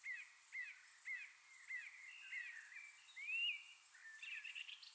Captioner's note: birds and crickets chirp